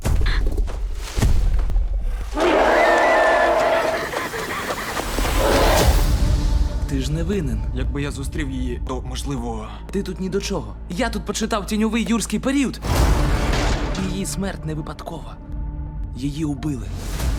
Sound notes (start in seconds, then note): 0.0 girl gasps; 0.0 objects clattering; 2.2 raptor roars; 2.4 girl screams, pants; 12.8 thrilling music playing